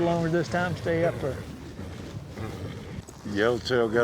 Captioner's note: horse neighs